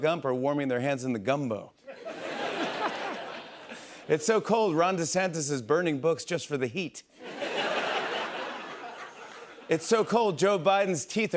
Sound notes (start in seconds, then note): 1.8 laughter; 7.2 laughter